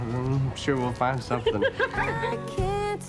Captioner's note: laughing